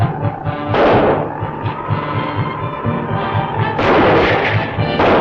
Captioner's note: gunshots